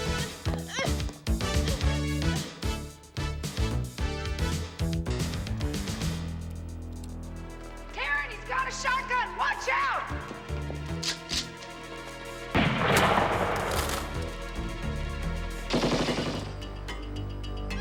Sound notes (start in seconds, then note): 0.0 upbeat music; 12.5 gun firing; 12.8 gun cocking